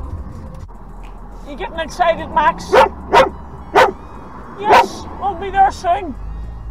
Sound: dog barks in the back of the car

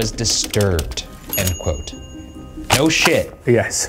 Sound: bell dings

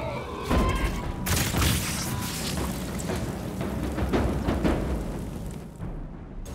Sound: Shambler explodes; fire burning

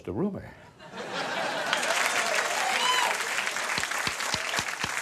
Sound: crowd applause

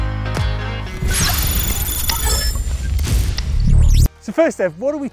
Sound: high frequency beeping

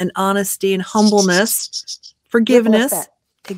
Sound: whistles

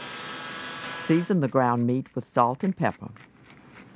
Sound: voiceover

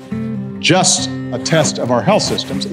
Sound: jacket zips

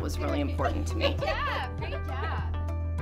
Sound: woman laughing

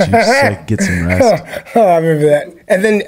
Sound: laughs

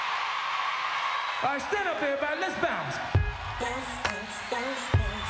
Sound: screams

